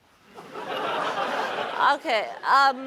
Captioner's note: laughter